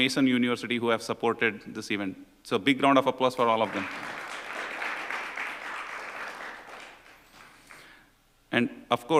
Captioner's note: applause